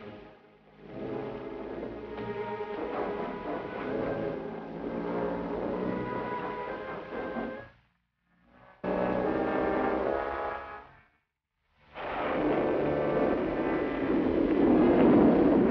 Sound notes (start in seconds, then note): 11.9 thunder clapping